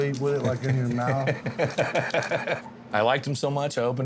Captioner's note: laughing